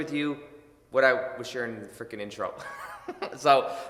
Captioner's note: laughs